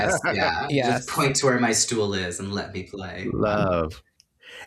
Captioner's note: tired